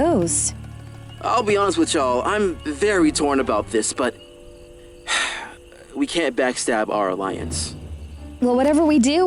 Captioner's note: sighs